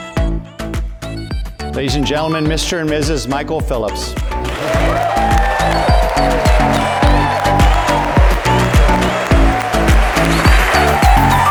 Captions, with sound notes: - Ladies and gentleman, Mr. And Mrs. Michael Phillips. (cheering) (upbeat music)